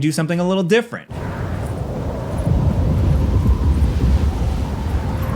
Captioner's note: wind howling